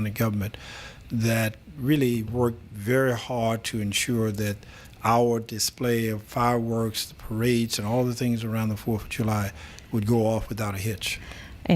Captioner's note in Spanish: Habla en ingl\s